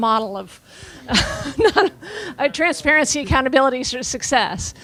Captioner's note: laughing